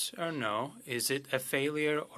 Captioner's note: speaking French